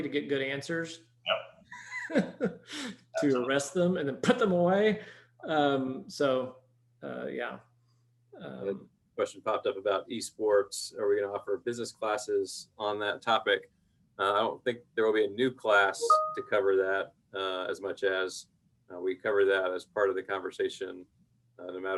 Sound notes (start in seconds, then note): 1.7 laughing